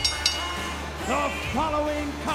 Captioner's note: bell rings